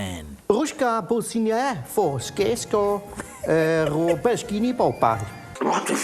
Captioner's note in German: spricht Kauderwelsch